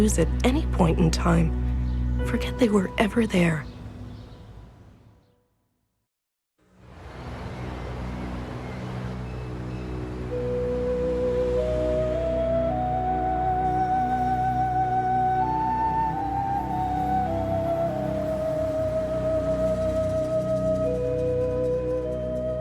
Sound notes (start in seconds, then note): 6.9 gentle music; 7.2 birds chirping